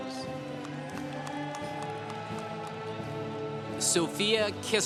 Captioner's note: congregation cheering